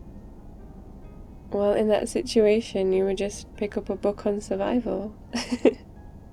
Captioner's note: laughs